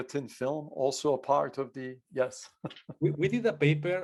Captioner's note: laughs